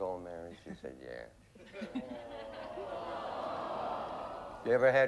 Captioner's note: audience moans